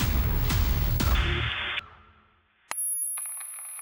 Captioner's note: static buzzes; high-pitched tone ringing; static crackling